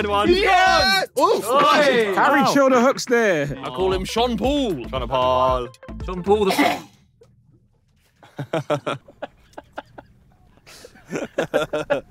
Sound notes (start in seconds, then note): 6.4 captain coughs; 8.2 laughing